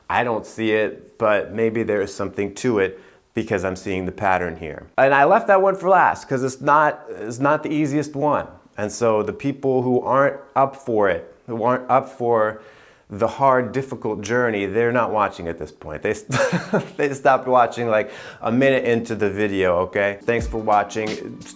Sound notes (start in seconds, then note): 16.3 laughing